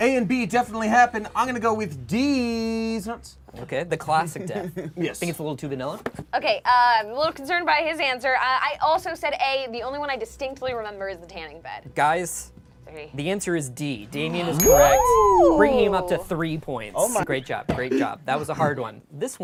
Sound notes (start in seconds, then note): 14.6 bell dings